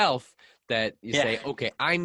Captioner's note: laughs